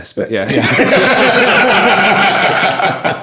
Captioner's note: laughing